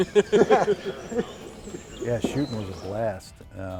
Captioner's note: laughing